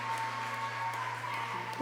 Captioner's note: cheers and applause